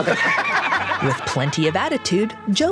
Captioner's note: laughing